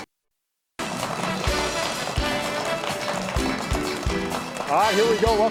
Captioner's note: audience clapping